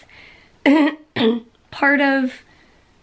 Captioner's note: clears throat